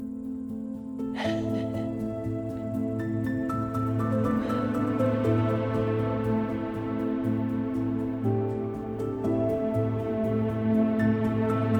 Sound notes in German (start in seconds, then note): 1.2 kichert; 4.3 sanfte Instrumentalmusik